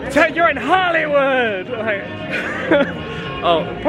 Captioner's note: laughs